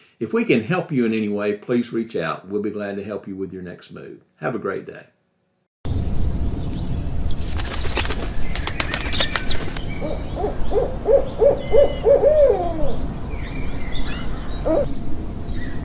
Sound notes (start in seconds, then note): 6.5 birds chirping